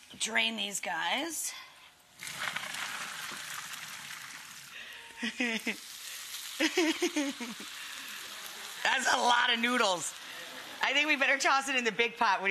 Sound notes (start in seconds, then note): 5.1 Rachel giggling